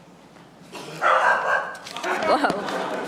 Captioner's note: dog barking; audience laughing